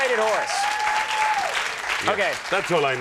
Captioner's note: applause